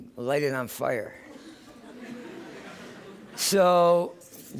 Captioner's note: laughter